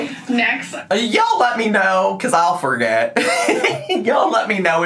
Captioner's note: laughs